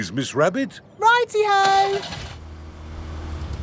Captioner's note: car engine starts